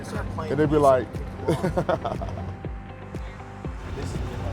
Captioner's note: laughing